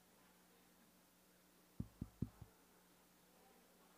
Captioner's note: background chatter; tap tap tap